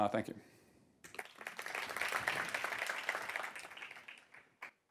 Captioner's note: audience applauds